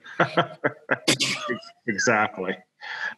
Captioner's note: all laughing